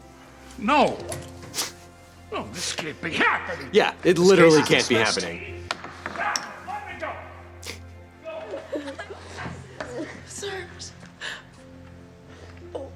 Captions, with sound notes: - No! No, this can't be happening! - Yeah, it literally can't be happening. - Let me go! (Robert family's crying) - Sir.